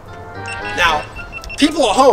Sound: timer beeping

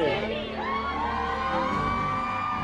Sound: cheers and applause

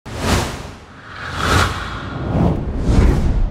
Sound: text swooshes

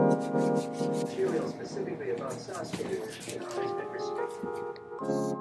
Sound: television murmuring

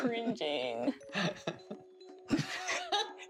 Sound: laughter

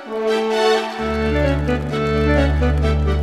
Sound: crowd cheering

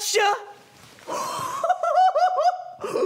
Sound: laughing

